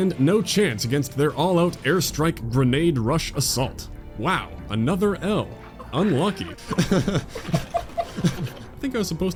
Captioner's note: hahahahah